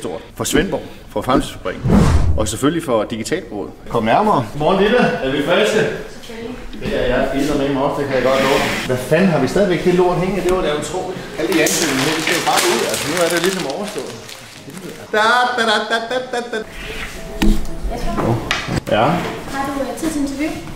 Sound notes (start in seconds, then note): 1.7 swoosh sound; 1.8 big swoosh sound; 14.9 does a happy sound; 17.0 donk